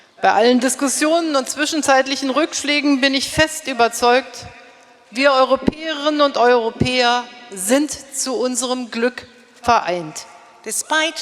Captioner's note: speaking in German